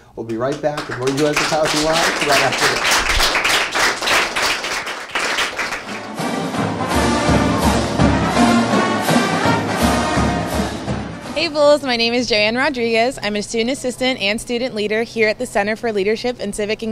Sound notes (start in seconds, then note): 6.3 applause